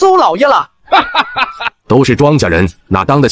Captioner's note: chuckles